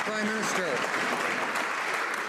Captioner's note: some Applause